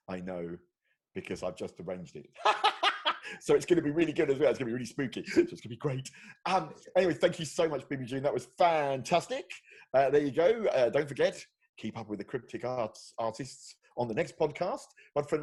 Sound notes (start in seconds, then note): 2.4 laughing loudly